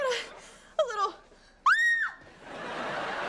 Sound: screaming; laughing

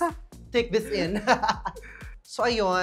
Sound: laughs

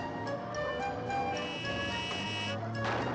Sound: horn honks

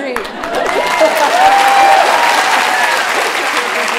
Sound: cheering; applause

